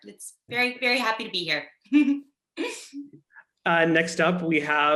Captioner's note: chuckles